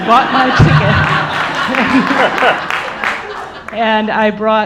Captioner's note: audience laughing